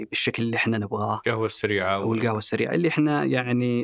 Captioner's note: in Arabic